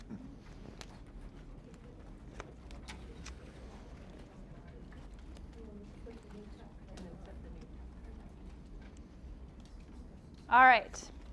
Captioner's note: general chatter